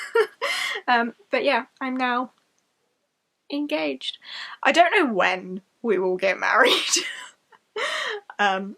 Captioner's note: laughs; laughs